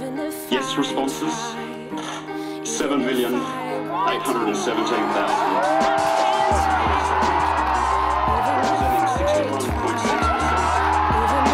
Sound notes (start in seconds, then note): 6.0 cheering